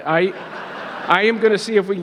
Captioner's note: audience laughing